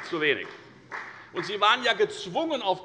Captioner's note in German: Beifall bei der FDP